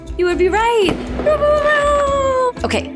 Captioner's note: finger fireworks